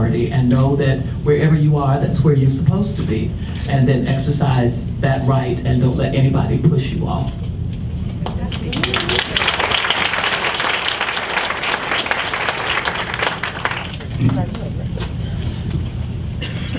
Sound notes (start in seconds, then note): 8.4 audience applauds